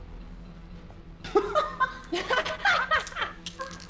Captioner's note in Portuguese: Risos